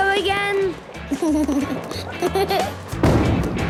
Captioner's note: giggles